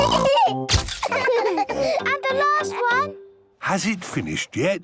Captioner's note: all laughing